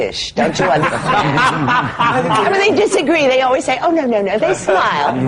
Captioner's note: laughter